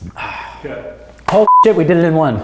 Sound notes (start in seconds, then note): 2.0 clap